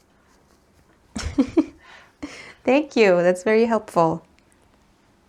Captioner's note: laughs